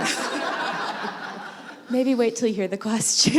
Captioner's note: laughter